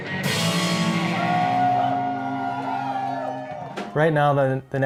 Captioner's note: cheering and applause